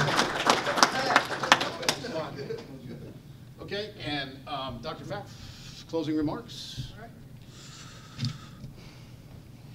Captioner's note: applause